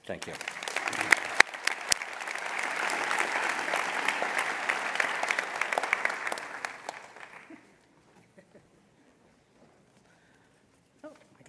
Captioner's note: applause